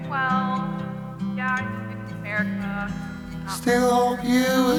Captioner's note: faint chattering